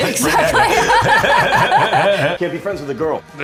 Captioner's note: Rose and Seth laugh